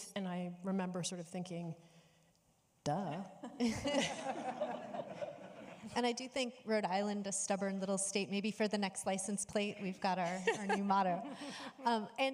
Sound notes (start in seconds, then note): 3.1 laughing; 3.9 audience laughing